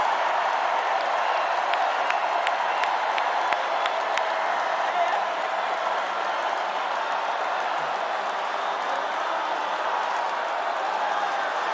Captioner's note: cheers and applause